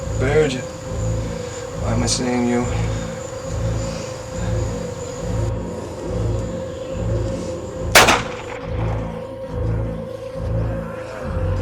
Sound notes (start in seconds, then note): 7.9 gun Shot